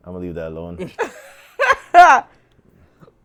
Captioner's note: laughing